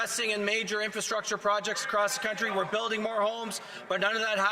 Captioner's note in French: voix de l'interprète